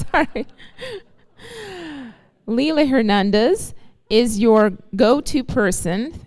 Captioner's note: laughter